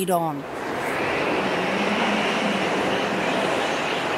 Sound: wind whooshing

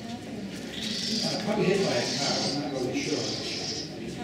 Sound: owl Screeching

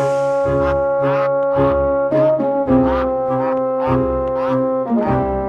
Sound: sad quacking

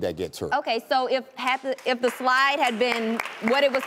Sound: audience applauds

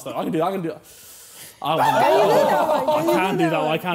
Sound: cackling

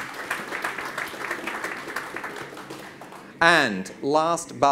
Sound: audience claps

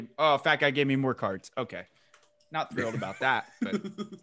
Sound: laugh

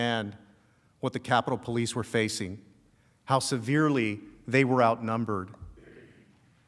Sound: shouting

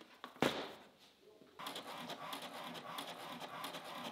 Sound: printer printing; printer thuds

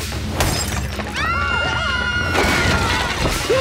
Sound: screaming

